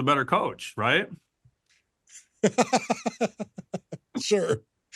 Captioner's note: laughter